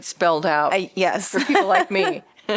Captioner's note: laughter